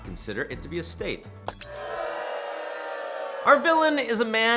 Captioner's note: crowd booing